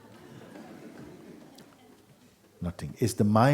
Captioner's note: laughter